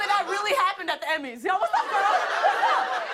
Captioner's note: laughter